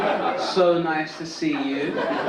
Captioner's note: audience laugh